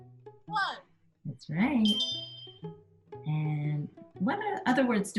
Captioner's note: bell tinging